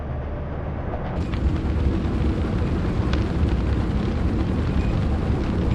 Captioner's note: fire burning in furnace